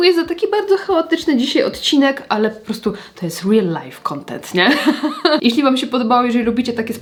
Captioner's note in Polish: śmiech